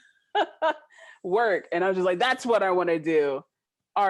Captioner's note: laughing